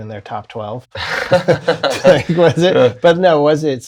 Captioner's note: laughter